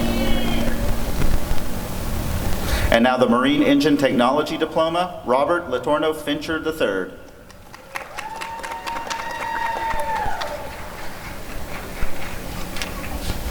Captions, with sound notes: And now the Marine Engine Technology Diploma— Robert Letourneau Fincher III [applause and cheering]